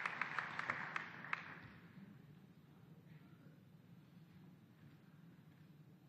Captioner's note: applause